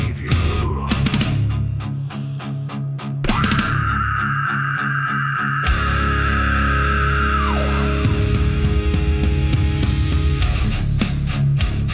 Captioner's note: screams